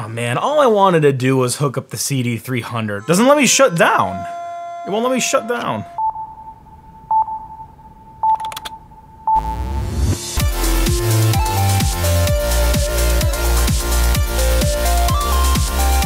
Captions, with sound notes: Oh man, all I wanted to do was hook up the CD 300. Doesn't let me shut down. It won't let me shut down. (beeping) (upbeat theme music)